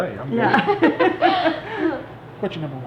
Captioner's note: laughing